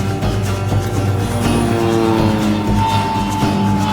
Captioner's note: airplane engine whizzing